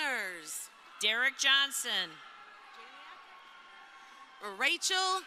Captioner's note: crowd cheering